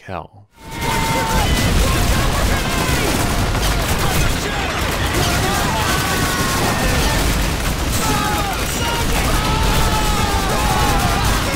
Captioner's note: overwhelming sounds of screams and gunfire